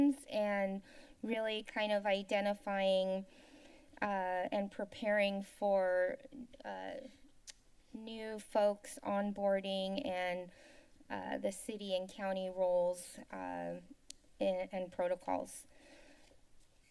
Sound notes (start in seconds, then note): 7.4 clicks Tongue; 15.7 inhales